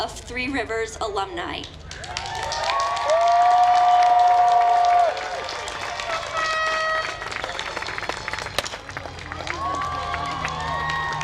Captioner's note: applause